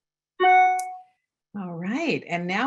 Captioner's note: audio feedback